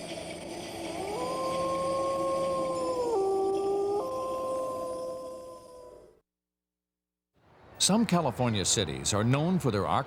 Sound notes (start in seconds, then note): 0.0 howling